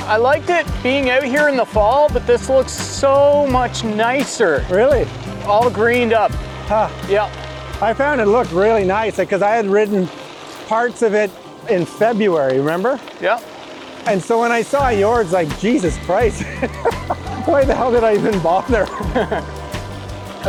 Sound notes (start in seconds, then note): 16.3 laughs